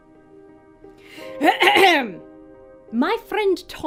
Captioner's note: clears throat